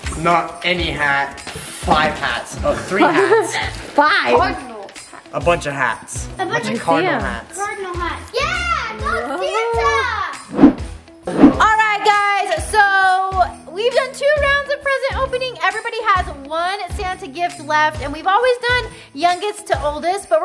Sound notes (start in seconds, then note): 2.8 laughing